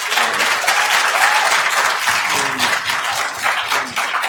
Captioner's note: attendees applauding